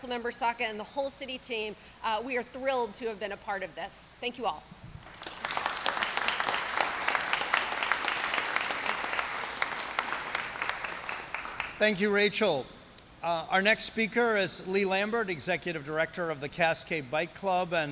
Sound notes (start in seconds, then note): 5.0 applause